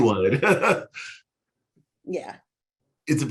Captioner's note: chuckling